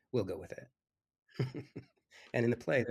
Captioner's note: laughs